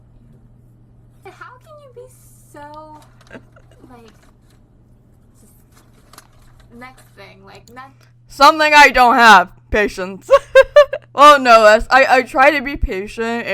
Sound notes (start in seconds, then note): 3.1 laughs; 10.3 laughs